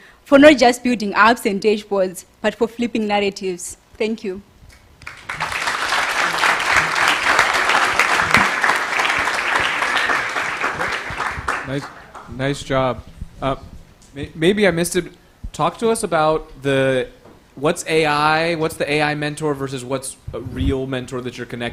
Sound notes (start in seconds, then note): 5.0 applause